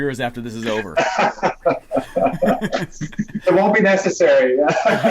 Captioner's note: laughing